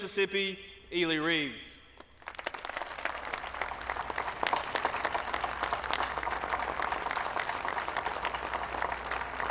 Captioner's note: applause